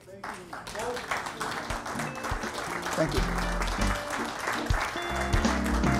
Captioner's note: audience applause; music playing-- no dialogue